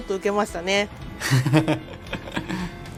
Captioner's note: Yuzuru Hanyu's laughter